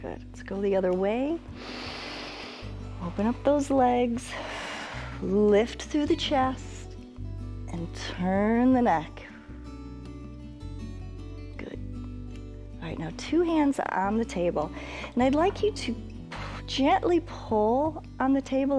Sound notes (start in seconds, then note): 1.5 inhales; 4.8 exhales